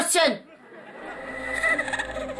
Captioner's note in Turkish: Gülme efekti